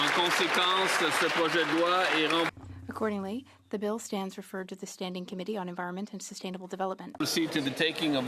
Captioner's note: some Applause